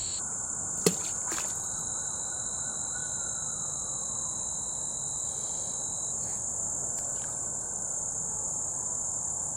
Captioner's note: the sound of a rock hitting the water, and a stick hitting the water